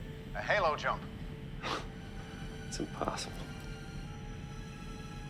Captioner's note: laughs